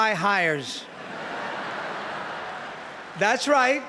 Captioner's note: laughter